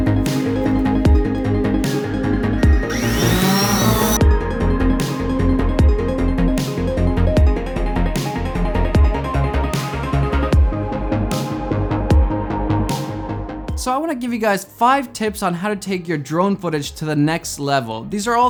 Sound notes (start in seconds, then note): 3.1 whirring